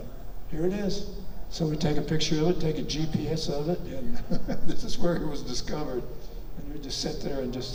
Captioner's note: chuckles